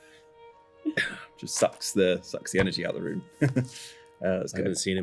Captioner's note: bitter laugh